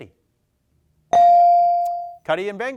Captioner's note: bell dings